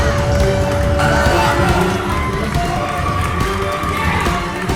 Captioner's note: crowd cheering